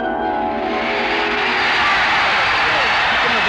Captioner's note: cheering